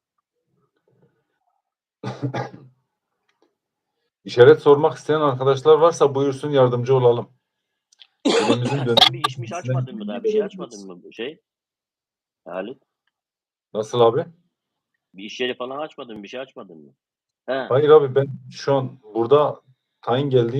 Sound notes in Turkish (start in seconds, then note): 2.0 öksürme; 8.9 kahkaha